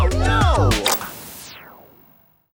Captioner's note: TV Clicks off